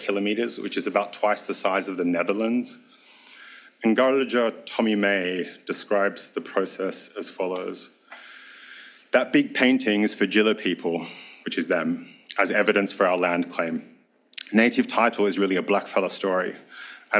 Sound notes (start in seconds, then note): 4.0 speaks foreign language; 10.1 speaks foreign language